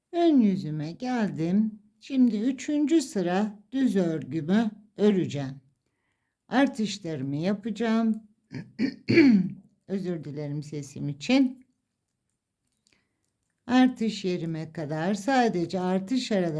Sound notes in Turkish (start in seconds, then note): 8.5 boğazını temizler